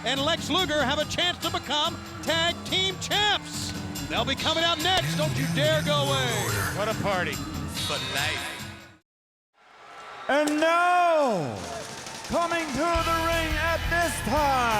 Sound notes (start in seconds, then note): 8.8 lively music continues; 9.6 crowd cheering